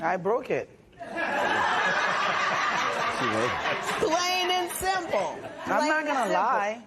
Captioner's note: laughter